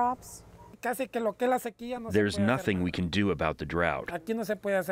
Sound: through translator

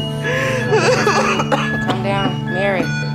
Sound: Mary coughing

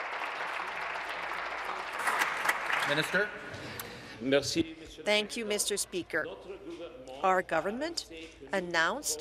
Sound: applause

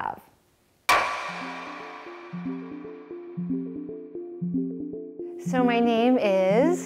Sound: hammer whacks; gentle music

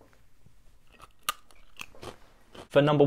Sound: munches

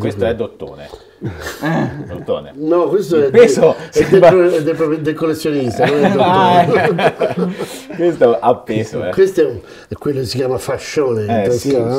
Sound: laughts

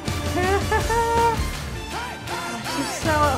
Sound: excited laughter

